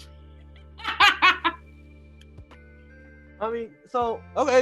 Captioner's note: laughing